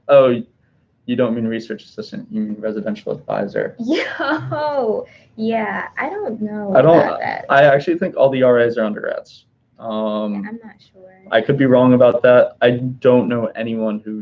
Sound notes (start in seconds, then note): 5.0 laughing